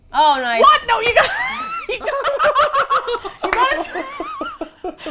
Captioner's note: all laugh